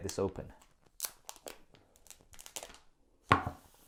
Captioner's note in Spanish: crujido de plástico